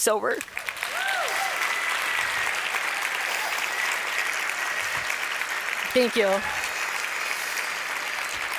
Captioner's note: applause